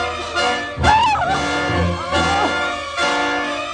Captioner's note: screaming